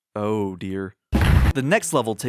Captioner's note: thump